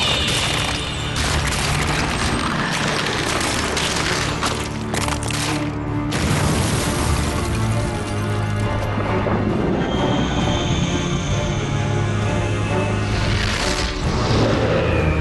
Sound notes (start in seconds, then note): 0.0 cracking; 6.1 explosion; 9.0 whistling wind